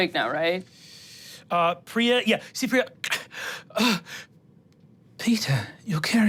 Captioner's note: gasping